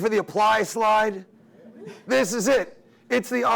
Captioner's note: attendees mumbling